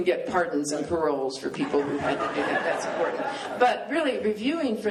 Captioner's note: laughter